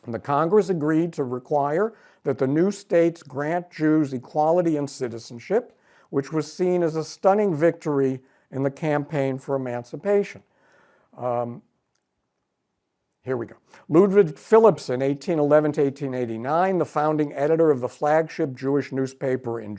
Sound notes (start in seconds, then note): none